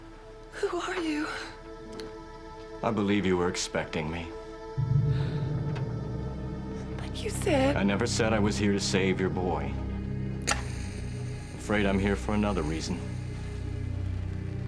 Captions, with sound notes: Who are you? - I believe you were expecting me. - But you said... - I never said I was here to save your boy. (match strike) I'm afraid I'm here for another reason.